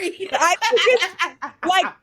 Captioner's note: laughing